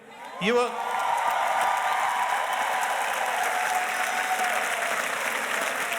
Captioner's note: audience cheers and applauds